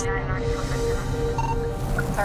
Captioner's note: radio beeps